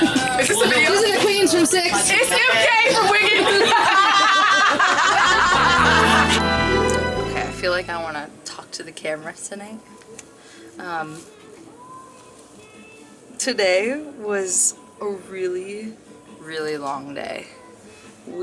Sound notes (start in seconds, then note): 3.8 all laughing; 5.0 upbeat music